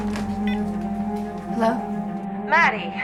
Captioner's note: phone beeps